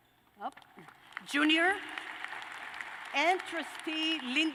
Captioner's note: applause